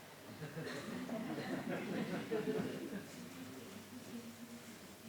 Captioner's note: laughter